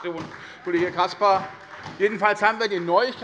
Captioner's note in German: Heiterkeit und Beifall bei der SPD